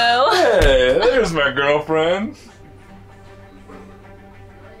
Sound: thump

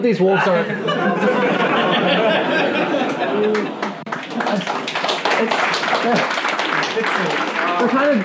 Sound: laughing and clapping

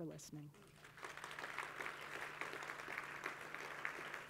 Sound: crowd applauding

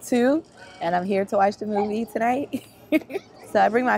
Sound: laughs

